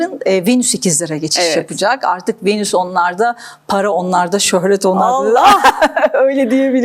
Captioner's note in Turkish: kahkaha